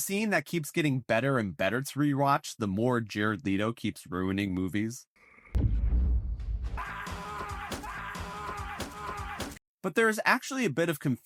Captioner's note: “screams”